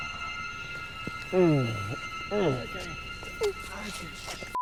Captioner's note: moans; Jen Whimpers